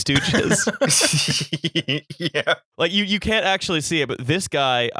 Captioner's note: laughter